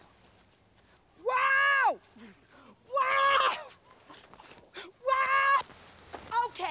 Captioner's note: screaming